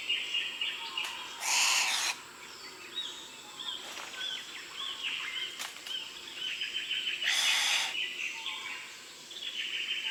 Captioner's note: bowerbird sounds